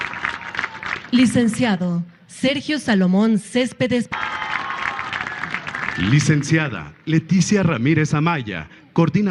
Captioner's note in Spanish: aplausos; aplausos